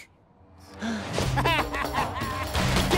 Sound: laughing

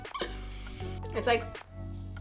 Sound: giggles

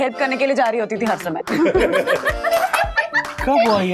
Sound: laughs

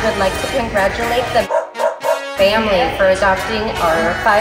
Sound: dog barks

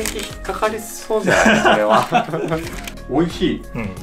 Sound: laughs

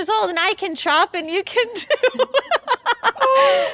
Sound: laughs

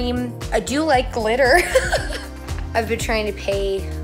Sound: laughs

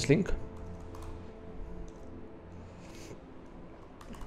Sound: keyboard typing

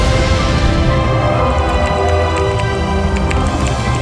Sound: pop

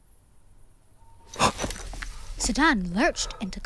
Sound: gasp

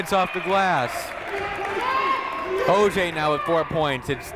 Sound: shouting

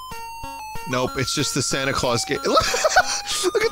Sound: laughs

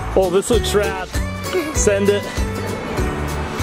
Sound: chuckles

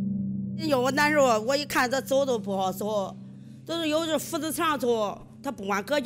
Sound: speaking foreign language

